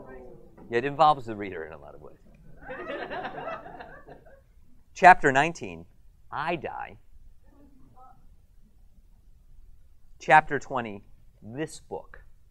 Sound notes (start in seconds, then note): 2.6 audience laughter